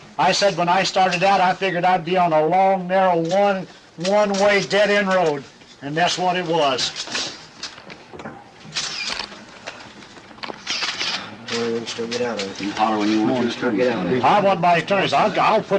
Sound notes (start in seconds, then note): 7.4 camera clicking; 11.7 crowd murmuring